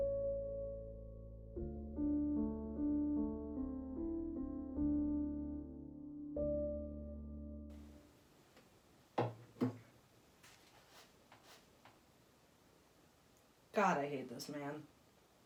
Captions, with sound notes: (chair creaks) God, I hate this man.